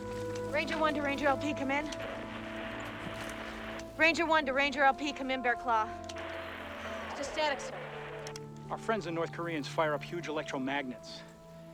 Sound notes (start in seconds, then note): 0.2 radio Static; 6.3 static Continues